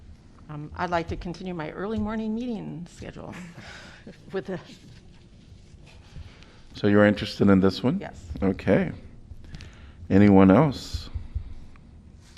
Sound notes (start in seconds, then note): 3.3 laughter